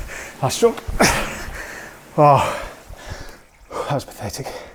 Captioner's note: grunts